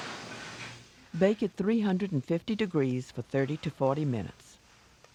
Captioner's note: voiceover